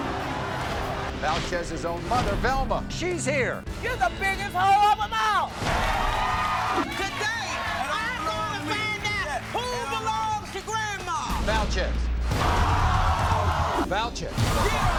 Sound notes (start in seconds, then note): 5.6 cheering